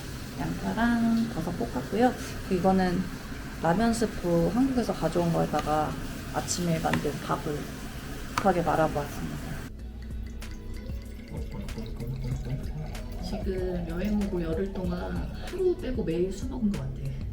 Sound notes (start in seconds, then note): 11.5 gurgle, gurgle, gurgle~